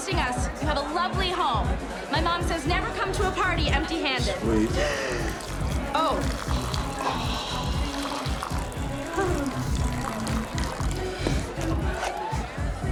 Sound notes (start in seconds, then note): 4.6 urine splattering; 7.0 Colin sighs of relief